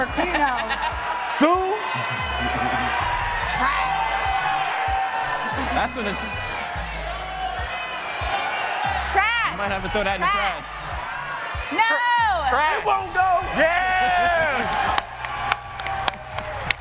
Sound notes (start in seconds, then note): 10.6 applause